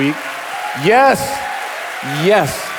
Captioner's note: audience applauding